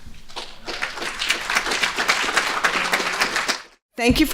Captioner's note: applause